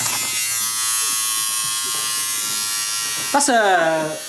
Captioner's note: motor buzzing